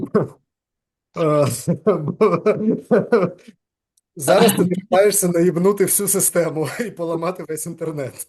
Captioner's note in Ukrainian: сміється